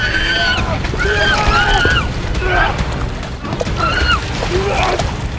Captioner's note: elizabeth screams